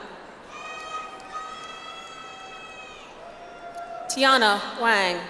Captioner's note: audience applauds